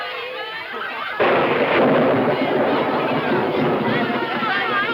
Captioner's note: thunder claps